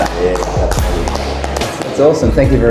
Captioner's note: clapping